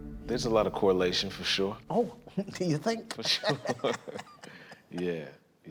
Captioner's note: laughs